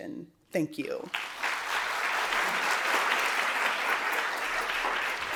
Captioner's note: applause